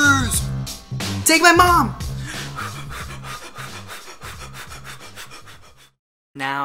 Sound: audible exaggerated breathing

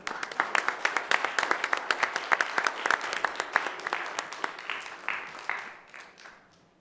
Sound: applause

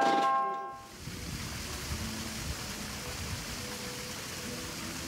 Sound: water rushing

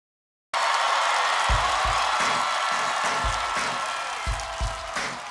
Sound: applause

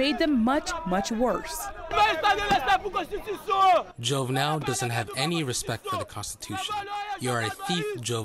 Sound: through translator

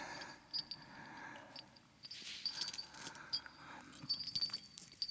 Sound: ghostly whispering

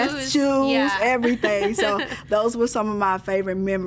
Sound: laughing

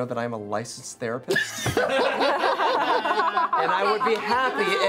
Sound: laughter

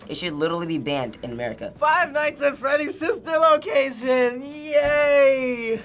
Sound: none

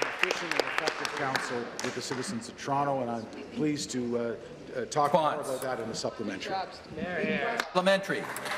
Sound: applause

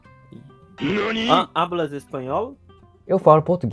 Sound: Spanish

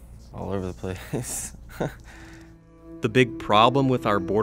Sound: chuckling

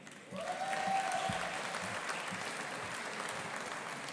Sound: audience applauding

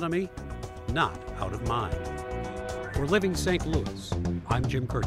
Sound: horn honks

